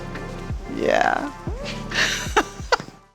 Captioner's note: laughing